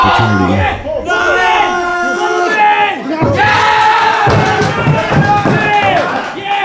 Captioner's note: audience cheering